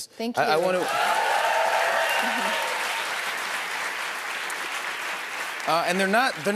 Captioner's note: cheers and applause